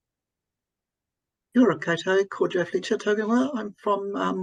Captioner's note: speaking in foreign language